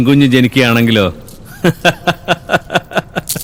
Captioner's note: scornful laughter